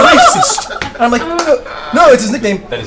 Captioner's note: laughter